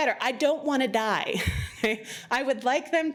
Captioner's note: laughs